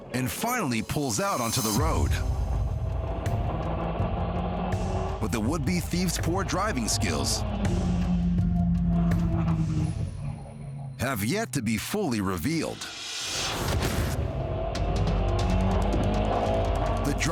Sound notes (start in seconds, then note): 3.8 car engine rumbles; 13.4 car engine revs